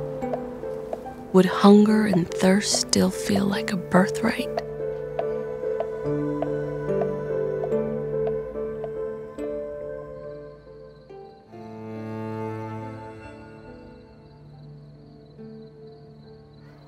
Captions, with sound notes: Would hunger and thirst still feel like a birthright? [pounding continues] IV. DREAMS IN WHICH MOTHER APPEARS